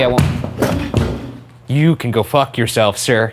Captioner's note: loud thumping